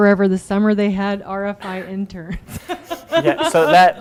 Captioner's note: laughing